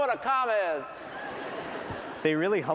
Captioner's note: laughter